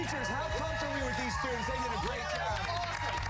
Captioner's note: cheers and applause